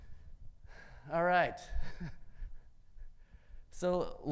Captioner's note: chuckles